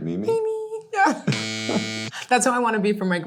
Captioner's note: buzzer buzzes